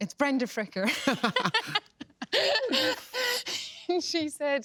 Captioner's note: both laugh